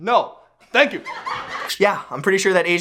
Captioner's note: people laughing